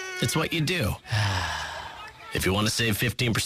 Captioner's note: sigh